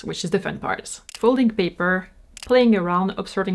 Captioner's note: camera shutter clicks